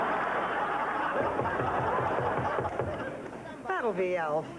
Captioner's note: knock on door